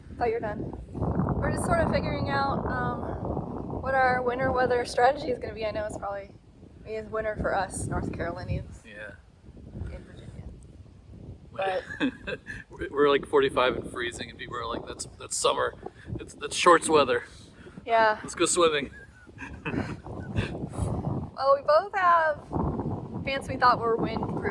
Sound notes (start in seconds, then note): 18.9 laughs